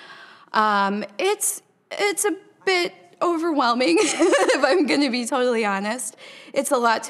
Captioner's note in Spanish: Risas